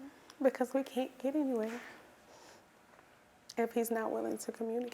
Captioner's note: none